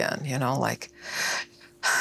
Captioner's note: breathes deeply